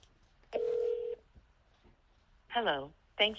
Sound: phone ringing

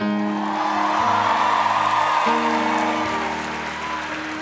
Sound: audience cheering

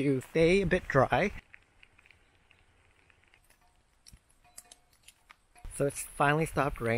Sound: sound of rain drops

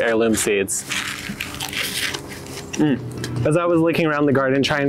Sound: chard crunching

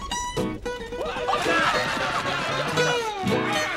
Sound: screaming

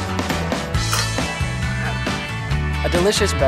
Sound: glasses clink

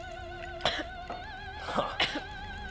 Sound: coughing

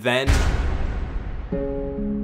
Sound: boom; sad music

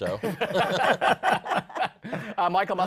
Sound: laughter

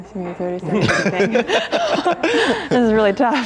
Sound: laughter

